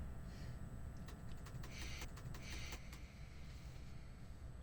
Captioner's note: typing